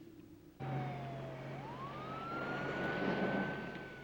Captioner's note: siren